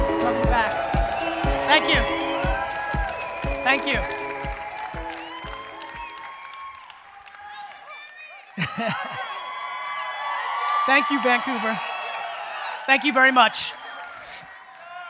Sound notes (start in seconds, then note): 6.3 cheering; 9.5 cheering and applause